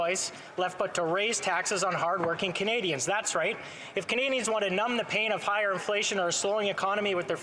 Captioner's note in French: voix de l'interprète